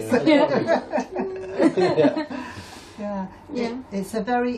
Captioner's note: all laughing